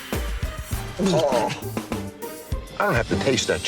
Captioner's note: Jon gags